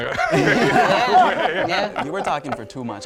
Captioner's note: men laugh